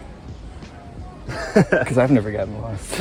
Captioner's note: chuckles